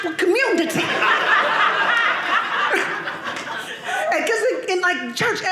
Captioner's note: audience laughing